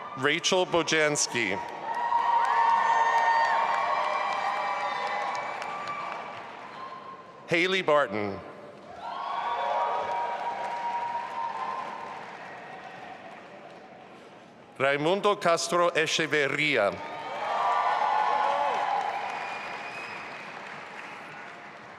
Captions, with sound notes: Rachel Bojanski. (audience applauding and cheering) Hayley Barton. (audience applauding) Raimundo Castro Echeverria. (audience applauding and cheering)